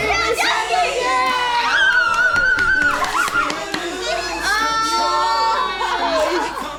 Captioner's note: screaming - laughing